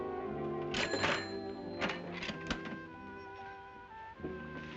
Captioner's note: cash register rings